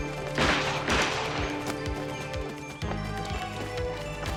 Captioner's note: gun firing